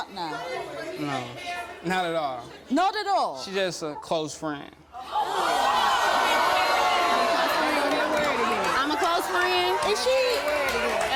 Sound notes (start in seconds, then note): 5.0 audience shouting